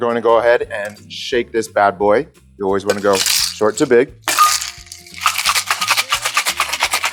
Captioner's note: shaking cocktail